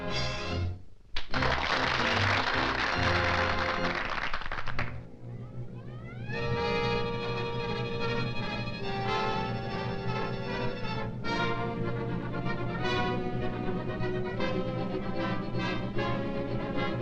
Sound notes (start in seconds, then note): 1.1 audience applauding; 4.1 dramatic music